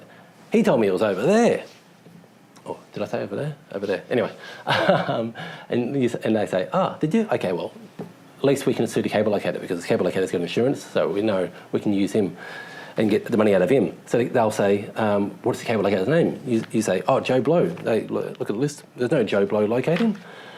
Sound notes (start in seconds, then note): 4.6 chuckle